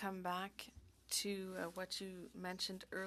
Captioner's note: speaking French